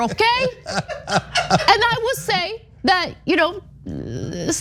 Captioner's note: laugh